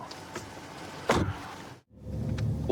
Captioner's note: car door closes